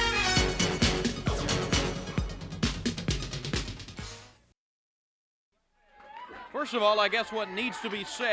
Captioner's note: crowd cheering